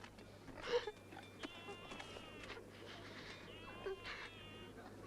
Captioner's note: Tracima sobbing